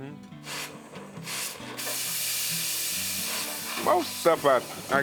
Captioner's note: torch hissing